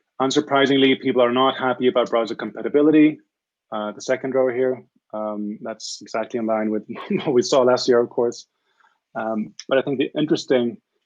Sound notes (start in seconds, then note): 6.8 chuckles